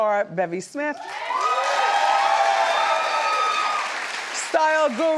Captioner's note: audience cheers